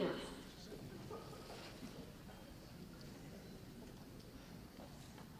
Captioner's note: audience chatter